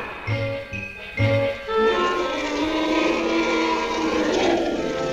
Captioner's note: both roaring